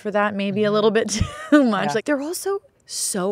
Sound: laughing

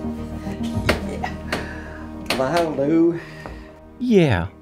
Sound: giggling

